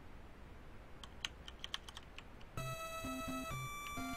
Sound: keyboard clicking

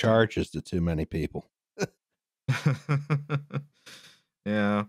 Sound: chuckles

